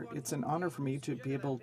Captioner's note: speaking french